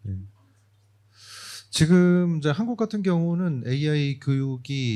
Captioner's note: speaking korean